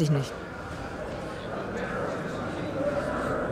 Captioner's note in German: Stimmengewirr